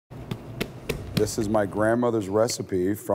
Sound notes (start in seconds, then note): 0.2 patting